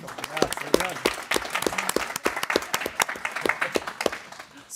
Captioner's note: people clapping